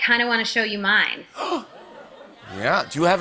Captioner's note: gasps